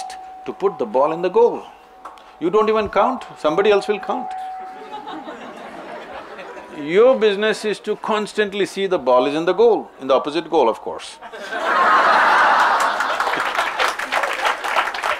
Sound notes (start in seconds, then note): 4.8 laughter; 11.2 laughter/Applause